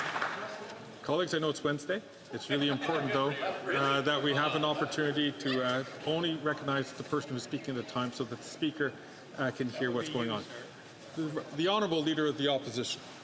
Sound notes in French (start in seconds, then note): 8.6 voix de l'interprète